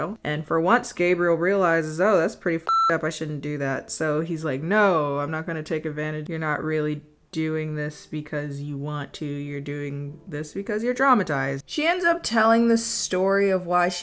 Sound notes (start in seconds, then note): 2.6 beep